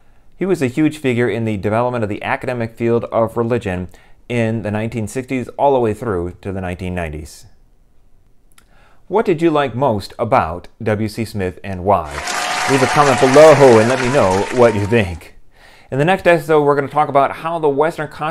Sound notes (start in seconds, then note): 12.0 applause